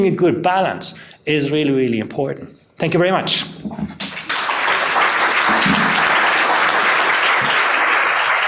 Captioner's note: applause